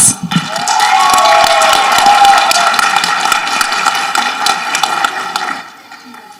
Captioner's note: people applauding and cheering